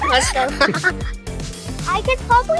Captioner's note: giggling